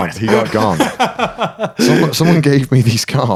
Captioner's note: laughing